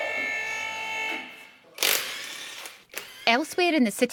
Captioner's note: machine whirring